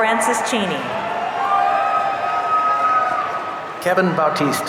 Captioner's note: audience cheering